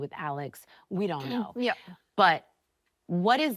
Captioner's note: clearing throat